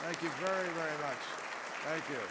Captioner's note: applause